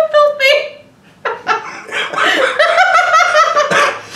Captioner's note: laughing